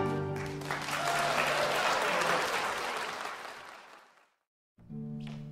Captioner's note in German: Applaus